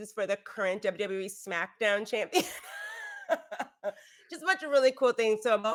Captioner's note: laughs